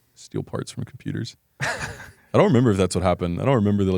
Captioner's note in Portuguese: risos